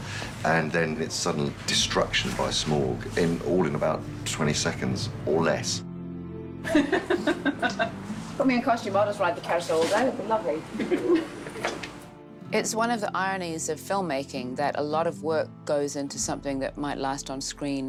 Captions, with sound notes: ...and then its sudden destruction by Smaug, all in about 20 seconds or less. [LAUGHS] Put me in a costume. I'll just ride the carousel all day. Lovely. It's an irony of filmmaking, that a lot of work goes into something that might last on screen...